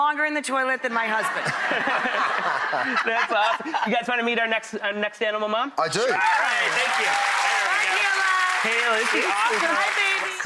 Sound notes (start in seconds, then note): 1.7 laughing; 6.1 audience cheering